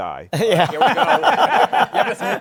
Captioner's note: laughter